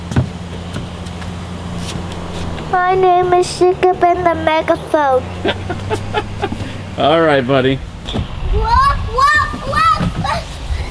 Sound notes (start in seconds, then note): 6.1 laughs